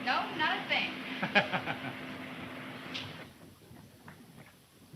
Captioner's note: Bob laughing